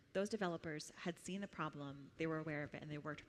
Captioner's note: none